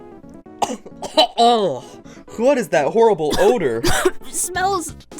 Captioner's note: cough; cough